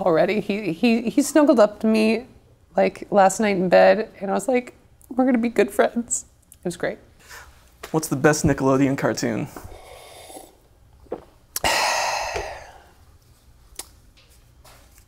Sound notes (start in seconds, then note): 11.5 sips drink and sighs